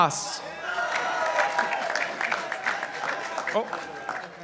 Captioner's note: participants applauding